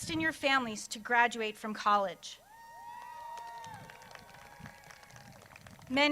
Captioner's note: crowd cheers